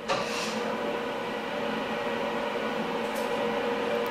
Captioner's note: quiet humming in the background